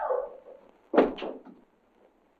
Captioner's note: thud